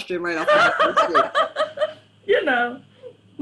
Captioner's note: laughter drowns out speaker